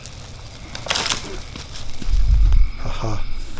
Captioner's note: branch crackling